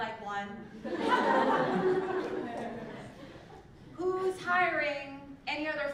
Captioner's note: laugh